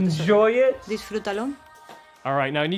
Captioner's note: speaks in english